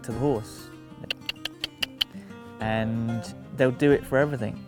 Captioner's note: clicks tongue